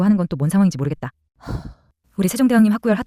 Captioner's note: sigh